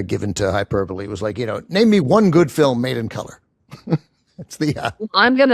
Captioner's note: chuckles